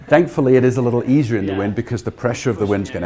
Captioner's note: laughs